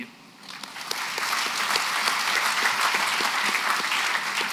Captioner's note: applause